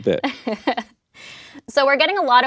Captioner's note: laughs